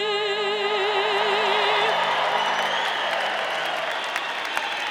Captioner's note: audience cheering